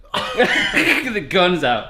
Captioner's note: laughing